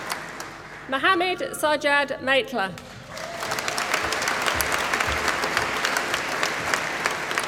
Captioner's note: applause